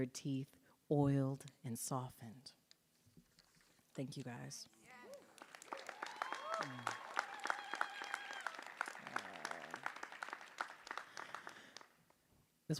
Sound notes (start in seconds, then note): 6.4 audience cheering and applauding